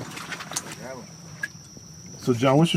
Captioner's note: indistinct chatting; waster splashing; water splashing; crickets